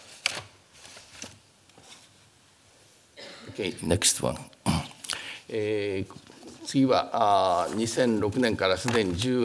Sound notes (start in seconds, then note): 6.2 speaking japanese